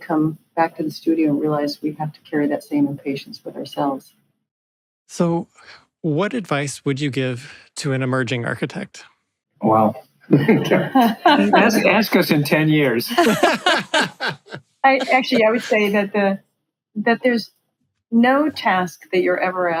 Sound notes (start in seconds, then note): 12.9 laughing